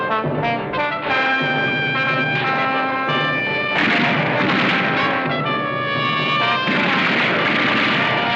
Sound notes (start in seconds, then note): 3.4 gunfire continues